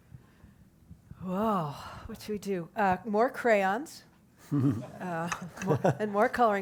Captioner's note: laugh